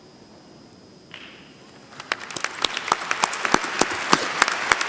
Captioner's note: applause